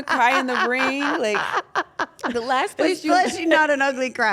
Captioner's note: laugh